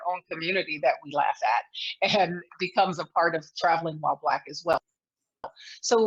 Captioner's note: laughs